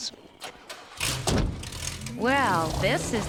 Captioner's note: engine revving